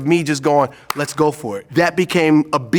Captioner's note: claps hand